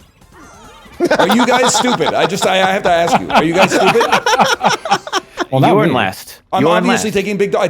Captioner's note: laughs